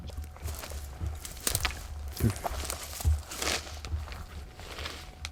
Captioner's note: leaves and twigs crunching